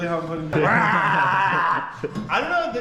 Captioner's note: grunting and growling